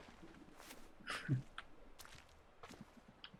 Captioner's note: chuckles